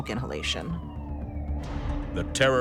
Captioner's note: siren wailing